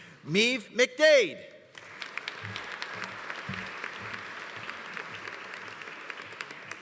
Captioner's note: audience applauding